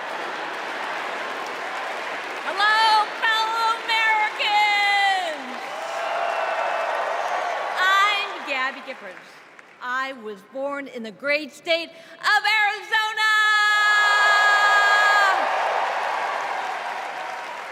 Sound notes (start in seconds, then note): 4.5 crowd chanting